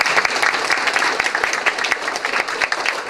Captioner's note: applause